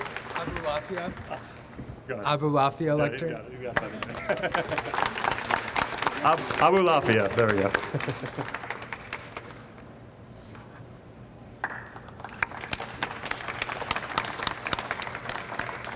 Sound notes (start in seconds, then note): 3.7 audience applauds; 10.1 chuckles; 11.9 audience applauds